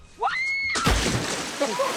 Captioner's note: screaming; guys laughing